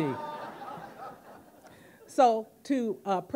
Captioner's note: audience laughing